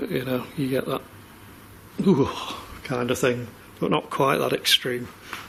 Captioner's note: shivering